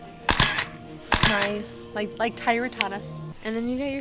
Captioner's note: camera shuttering